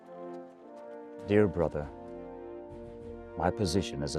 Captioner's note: voiceover